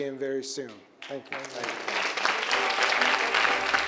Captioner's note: audience claps; upbeat music